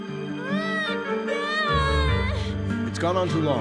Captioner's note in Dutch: Catherine schreeuwt